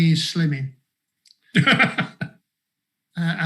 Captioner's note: laughs